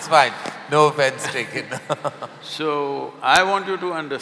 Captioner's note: both laugh